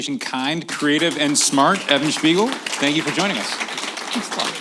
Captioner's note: applause